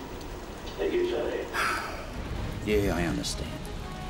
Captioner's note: sigh